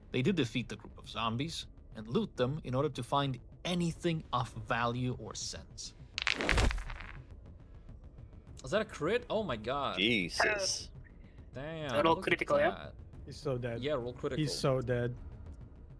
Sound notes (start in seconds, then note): 6.2 body falling